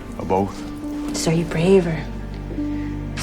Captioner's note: voiceover